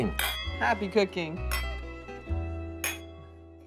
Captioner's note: glasses clinking